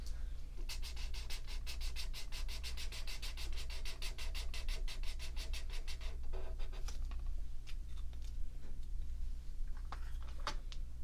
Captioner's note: marker sounds